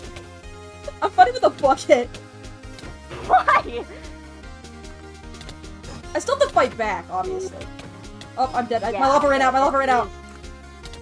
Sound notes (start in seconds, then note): 3.1 laughing